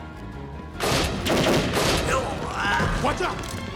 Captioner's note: gunfire clattering; gangster groans